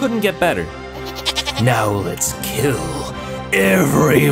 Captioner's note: goat bleat